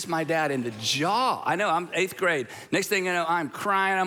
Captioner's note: congregation gasping